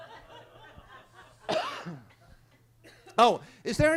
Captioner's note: attendees laughing; guy coughs